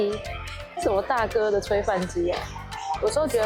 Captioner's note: laugh